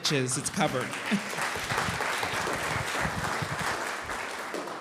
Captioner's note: audience applauding